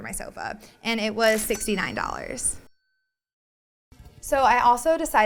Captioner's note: cash register dings